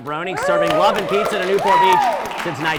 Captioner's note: studio audience cheering